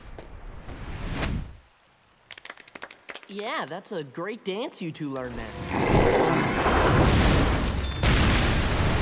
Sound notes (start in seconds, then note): 2.2 clapping